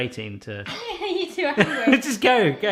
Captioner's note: laughing